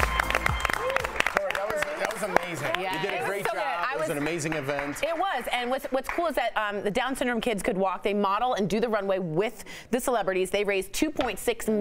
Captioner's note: cheers & applause